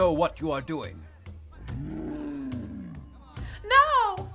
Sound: bear growls

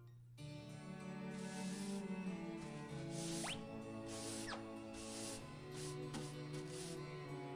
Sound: sweeping sounds

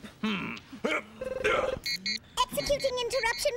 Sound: beeps

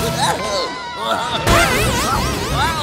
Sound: groaning

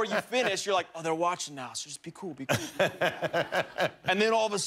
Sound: laughter

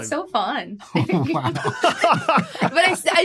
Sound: group laughing

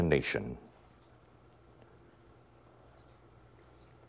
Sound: whispering

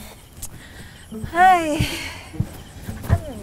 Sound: sighs Heavily

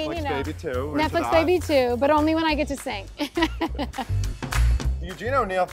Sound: laughs

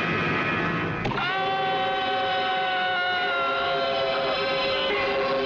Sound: screams

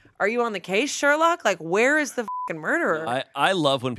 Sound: beep

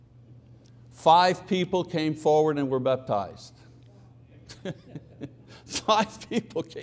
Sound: chuckles

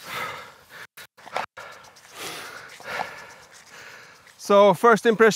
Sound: panting

